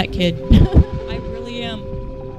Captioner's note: laughter